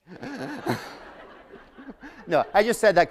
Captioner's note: laughter